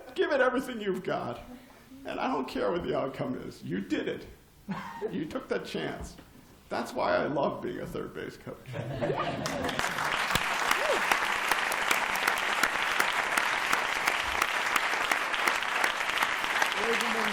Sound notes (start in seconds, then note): 8.6 laughter; 9.4 applause